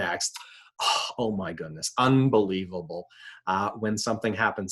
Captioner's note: sighing